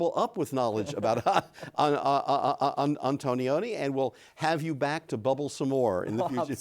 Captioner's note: laughs; laughs